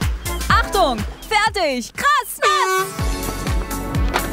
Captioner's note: Startsignal